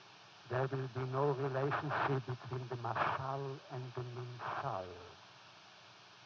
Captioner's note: foreign language